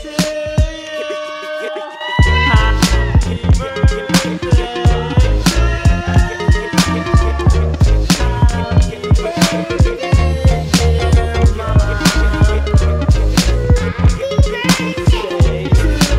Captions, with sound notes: - Whoo! - Happy birthday to you! (family cheering) Happy birthday dear mom. - Happy birthday to you.